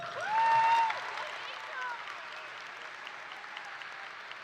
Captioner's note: audience cheering